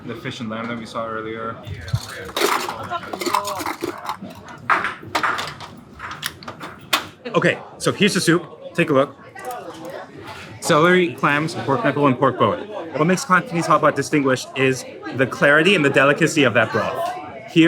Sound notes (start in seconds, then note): 1.7 bowls clattering; 1.9 people chattering; 4.6 stove clacking